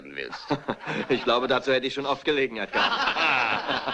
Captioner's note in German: alle lachen